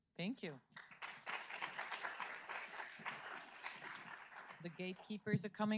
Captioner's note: audience applauds